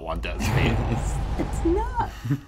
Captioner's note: laughs